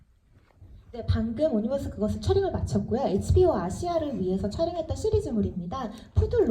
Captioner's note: speaks in foreign language